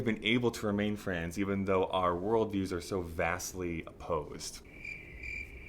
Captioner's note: cricket noises